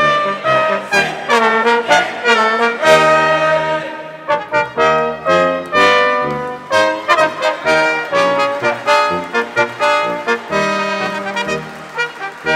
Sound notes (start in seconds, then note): 4.2 patriotic music; 6.2 audience applauding; 6.8 audience cheering